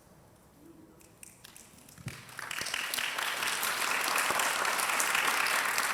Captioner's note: audience applauding